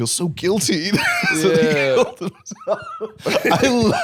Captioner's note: laughing